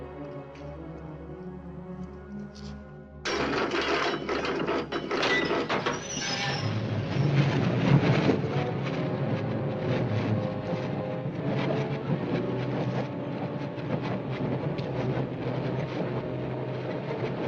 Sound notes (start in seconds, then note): 3.2 clanging; 8.5 train clacking